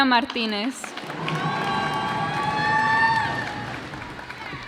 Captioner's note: cheers and applause